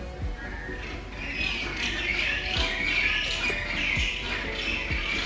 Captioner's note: penguin chirping